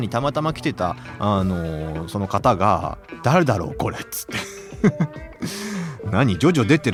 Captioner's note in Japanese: 笑い